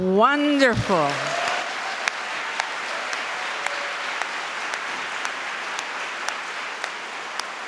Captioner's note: applause